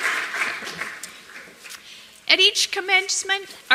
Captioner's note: applause